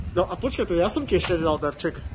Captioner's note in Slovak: none